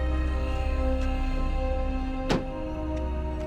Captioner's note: thud sound